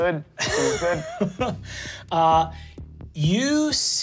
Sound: laughs

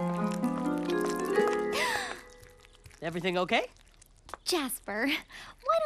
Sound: gasping

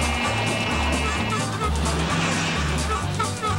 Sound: horn blares

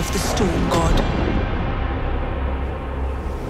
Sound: rumbling thunder

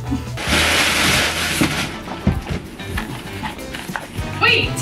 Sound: packaging crinkling

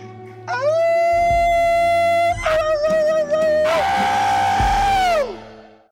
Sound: both men howling like wolves

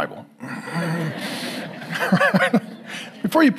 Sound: congregation laughing

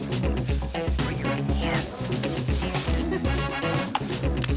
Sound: sounds of a struggle

